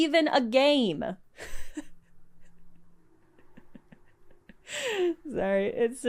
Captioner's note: breaks to laugh softly